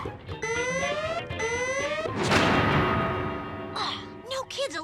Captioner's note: alarm sounding